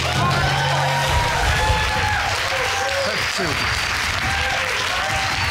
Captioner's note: audience cheering